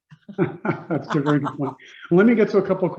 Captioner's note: Doug and Indra laughing